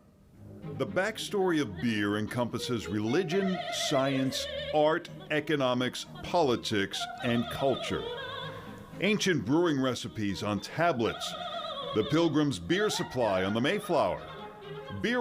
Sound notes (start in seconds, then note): none